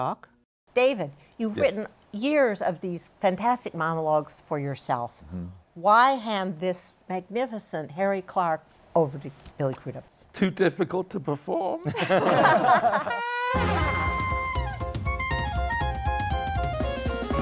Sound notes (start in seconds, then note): 11.8 laughter